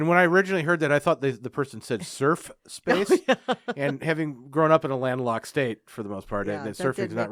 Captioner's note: laughing